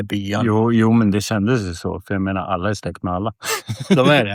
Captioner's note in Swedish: skratt